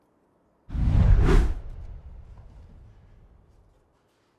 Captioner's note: air whooshing